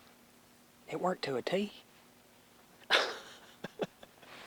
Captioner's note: laughs